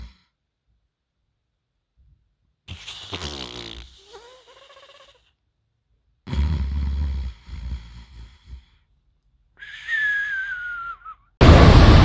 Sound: unbearable hog snoring

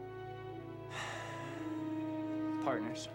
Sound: sighs

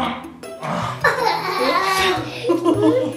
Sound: laughing

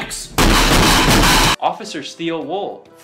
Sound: loud banging

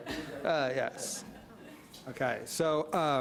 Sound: audience laughing

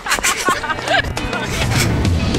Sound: giggle

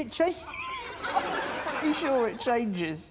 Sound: chuckles

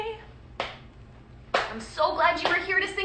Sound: slapping

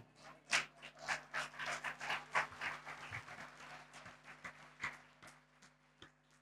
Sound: applause

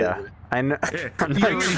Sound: laughs

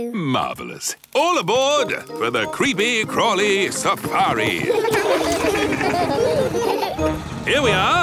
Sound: laughing

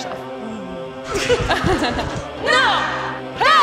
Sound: laughing

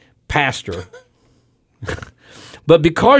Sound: laughter

